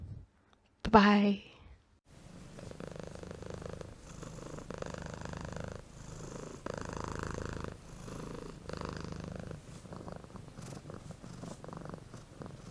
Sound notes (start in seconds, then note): 2.1 cat purring